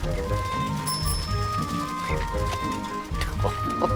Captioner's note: bell ringing